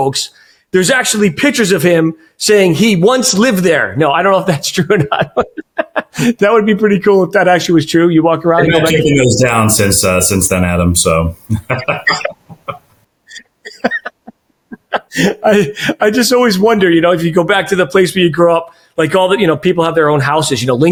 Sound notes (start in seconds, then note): 4.8 laughing; 11.4 laughing